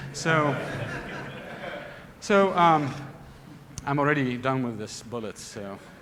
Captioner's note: laughter